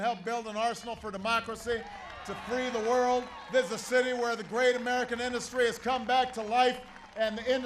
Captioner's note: applause